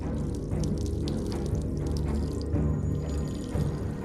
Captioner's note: holy water splashing